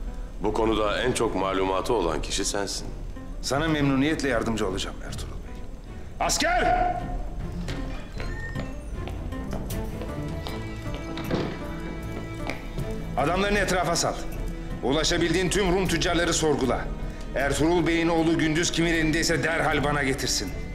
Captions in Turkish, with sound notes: …bu konuda en çok malumatı olan kişi sensin. Sana memnuniyetle yardımcı olacağım Ertuğrul Bey. Asker! (Kapı açılma sesi) (Kapı gıcırdama sesi) (Ayak sesi) (Kapı gıcırdama sesi) (Kapı kapanma sesi) Adamlarını etrafa sal. Ulaşabildiğin tüm Rum tüccarları sorgula. Ertuğrul Bey’in oğlu Gündüz kimin elindeyse derhal bana getirsin.